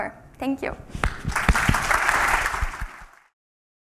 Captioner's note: applause